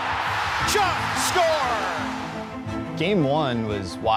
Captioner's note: crowd cheering